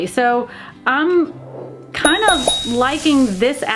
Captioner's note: bell dinging